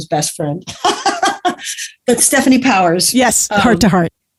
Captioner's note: laughs